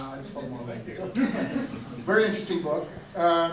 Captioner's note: audience laughs